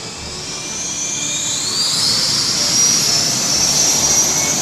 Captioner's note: whirring sounds